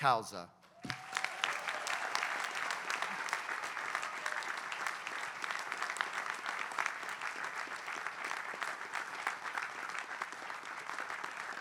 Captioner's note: applause